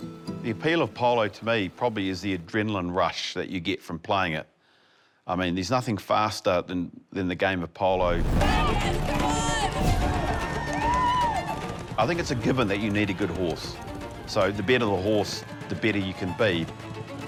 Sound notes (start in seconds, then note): 8.3 spectators shout